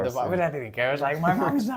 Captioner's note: laughs